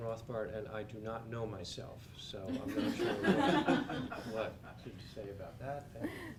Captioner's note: laugh